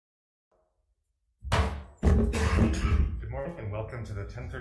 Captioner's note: gavel bangs